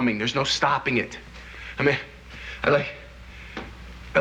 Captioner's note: stammering